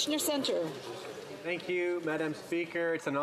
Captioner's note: applause